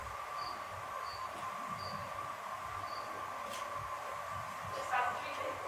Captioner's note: crickets